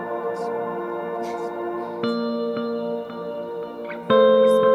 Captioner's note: gentle music; faintly speaking